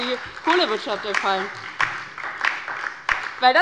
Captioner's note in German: Beifall bei der LINKEN, der SPD und dem BÜNDNIS 90/DIE GRÜNEN